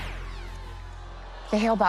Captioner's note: zap